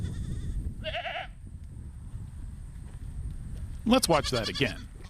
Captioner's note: goat bleats